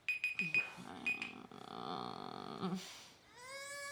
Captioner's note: Alex groaning; Jack crying